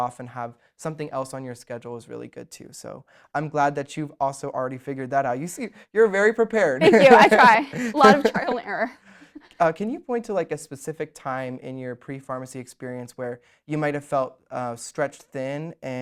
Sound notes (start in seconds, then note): 6.8 laughs